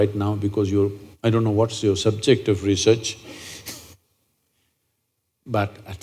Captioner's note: laughs